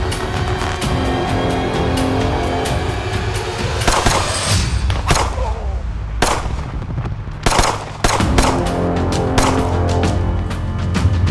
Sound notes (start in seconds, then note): 3.8 gunshot booming